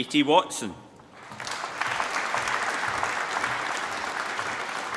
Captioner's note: applause